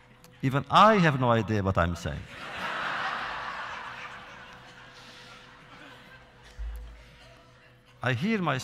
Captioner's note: laughter